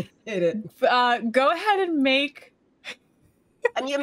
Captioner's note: laughs